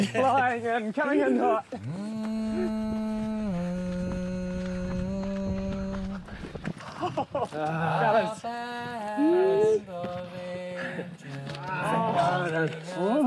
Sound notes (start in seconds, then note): 2.5 singer humming